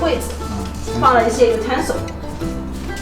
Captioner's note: cutlery